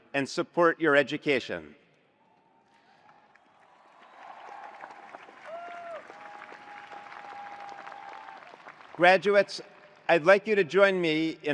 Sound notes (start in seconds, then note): 2.8 attendees applauding; 2.9 attendees cheering